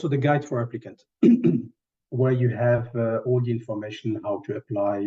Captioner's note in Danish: clears throat